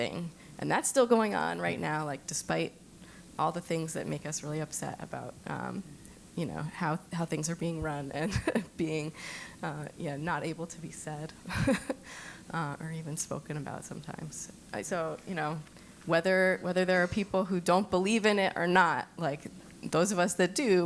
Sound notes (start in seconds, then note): 8.4 laugh; 11.5 laugh